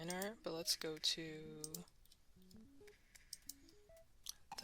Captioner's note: mouse Clicking